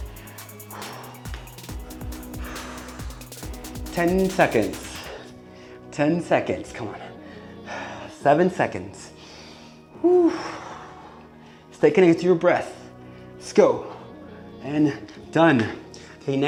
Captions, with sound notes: (breathing heavily) 10 seconds, 10 seconds come on, seven seconds. Stay connected to your breath. Let's go, and done.